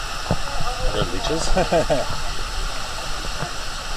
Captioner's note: nervous laughter